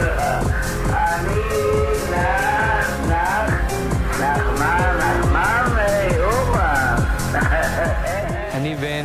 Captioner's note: laughs